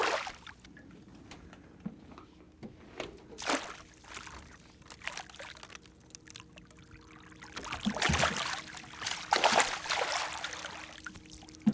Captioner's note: fish splashing; fish thrashing